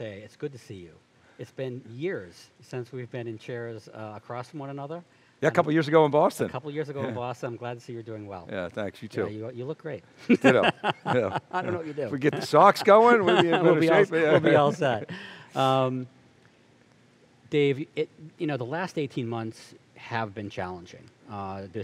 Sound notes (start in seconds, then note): 10.2 laughs